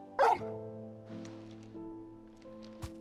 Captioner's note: bark